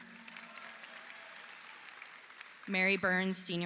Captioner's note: audience applauding